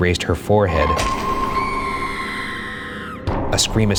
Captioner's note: atmospheric music; girl screaming